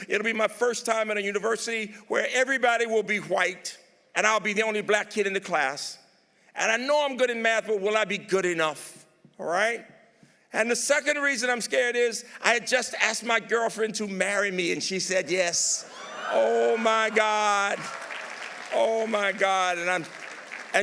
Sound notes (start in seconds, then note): 15.9 audience applauding